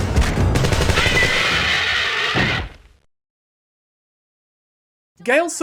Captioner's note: gunfire, followed by silence